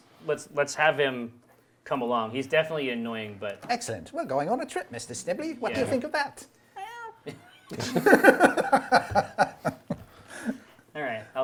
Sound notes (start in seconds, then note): 7.2 meow; 7.6 group laughs